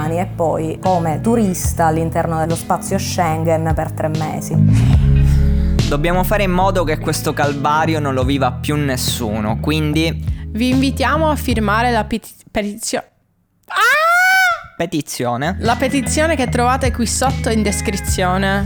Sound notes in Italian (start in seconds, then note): 13.5 grida